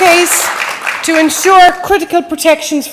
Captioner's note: applause